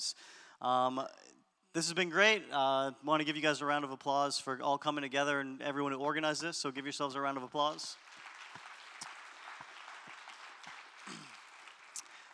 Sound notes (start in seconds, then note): 8.8 applause